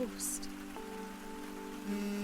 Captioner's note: phone vibrates